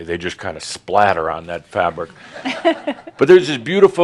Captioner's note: a few chuckles